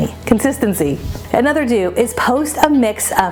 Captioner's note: transition whooshes